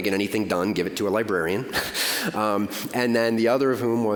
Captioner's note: laughing